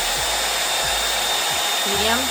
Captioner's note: dryer whirring